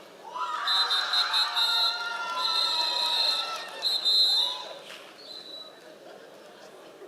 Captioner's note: members of the audience cheering and whistling